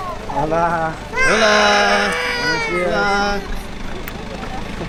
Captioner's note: speaking foreign language